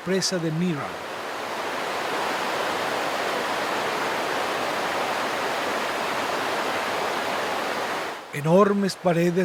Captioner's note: sound of cascades